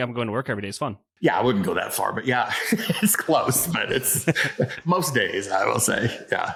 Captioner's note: laughs